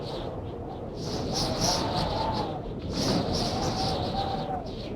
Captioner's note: wind howling continues